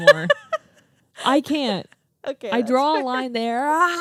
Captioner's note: laughing